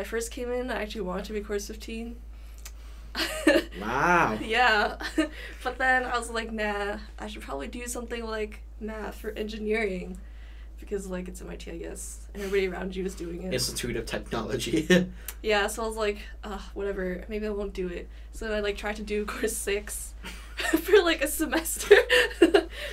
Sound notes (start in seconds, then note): 3.2 laughs; 3.3 chuckles; 15.4 chuckles; 20.9 chuckles